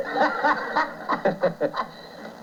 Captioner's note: laughter